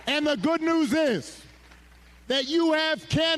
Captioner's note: applause